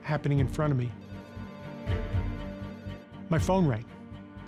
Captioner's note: phone ringing